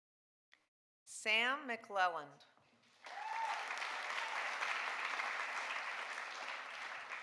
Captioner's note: audience applauding